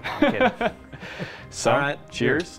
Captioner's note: laughter